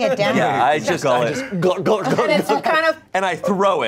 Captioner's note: glugs